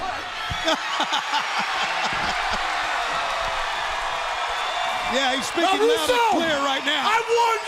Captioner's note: crowd cheering